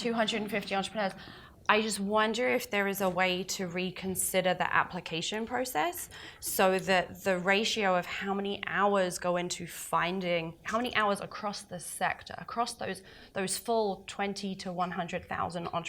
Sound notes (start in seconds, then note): none